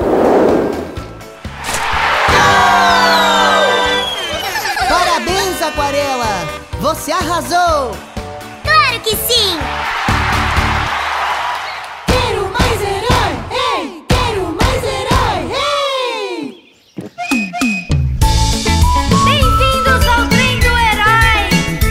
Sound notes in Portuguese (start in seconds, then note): 4.2 Risos